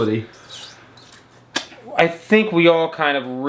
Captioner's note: smooches